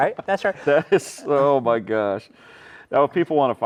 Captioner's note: laughing